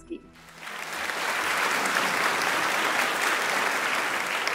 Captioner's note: audience clapping